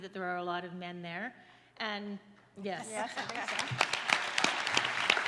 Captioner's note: applause